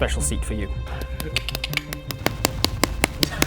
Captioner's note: thwack x16